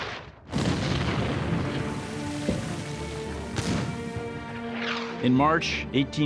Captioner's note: explosions